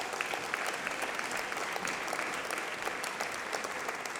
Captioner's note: applause